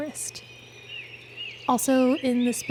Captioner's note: birds chirping